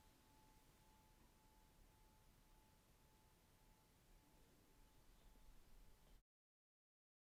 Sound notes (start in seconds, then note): 5.7 Tibetan singing bowl bell to signal end